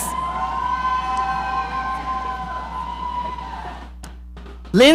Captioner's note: audience cheering